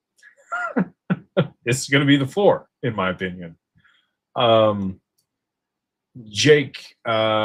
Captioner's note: laughter